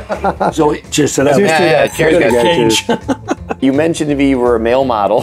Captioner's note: laughs; group cheers